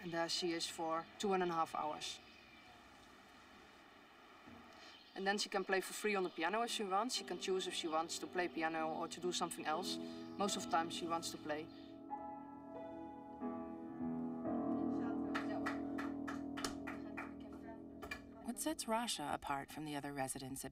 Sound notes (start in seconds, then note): 12.6 playing piano; 15.2 mumbling; 15.2 applause